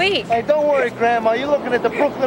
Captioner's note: laughing